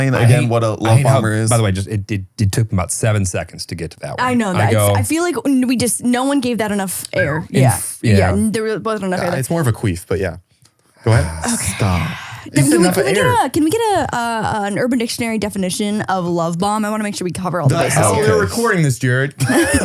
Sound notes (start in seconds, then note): 11.0 sighs